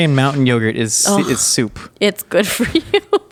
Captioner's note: laughing